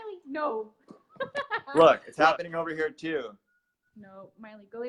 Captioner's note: laughs